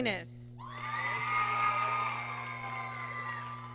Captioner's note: applause